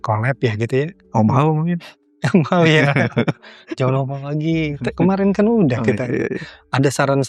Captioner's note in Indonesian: tertawa